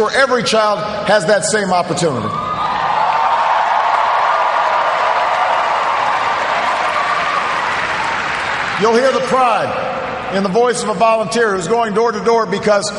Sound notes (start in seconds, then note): 6.8 cheers, applause